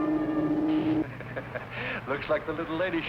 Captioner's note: laughs